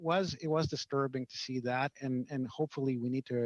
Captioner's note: speaking French